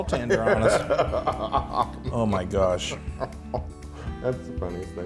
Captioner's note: laugh